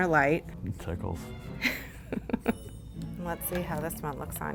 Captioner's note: laughs